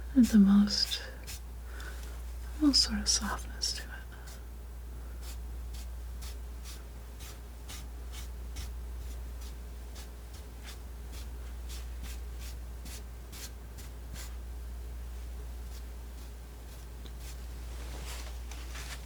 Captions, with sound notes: is the most, most sort of softness to it (scratching)